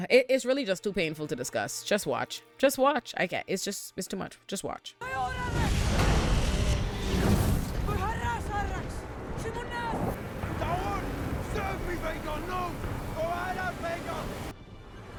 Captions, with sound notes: It's really just too painful to discuss. Just watch, just watch. I can't, it's just too much, just watch. (speaking in foreign language)